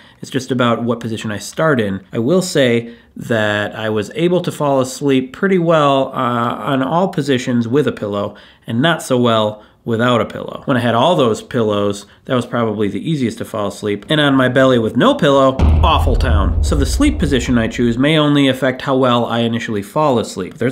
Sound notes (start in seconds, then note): 15.6 explosion sound